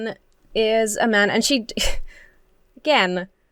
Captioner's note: laughs